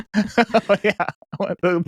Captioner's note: laughing